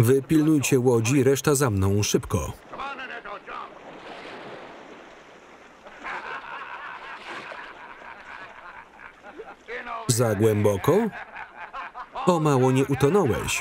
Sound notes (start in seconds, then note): 7.8 laughing